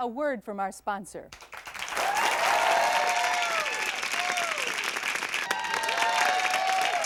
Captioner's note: applause and hoots